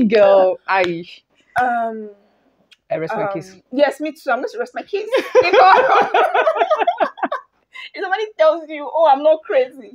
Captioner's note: laughter